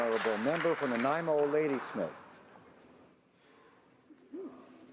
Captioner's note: some Applause